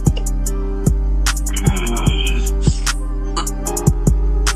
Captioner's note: dramatic grunting